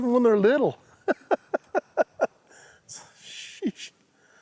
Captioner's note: laughs